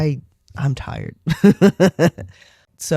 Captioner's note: laugh